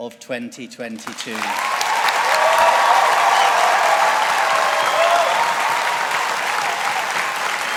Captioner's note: audience applauding